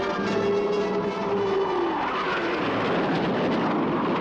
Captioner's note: motores a jato rugindo